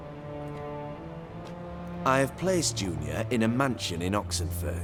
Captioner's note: none